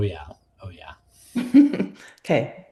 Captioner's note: laughs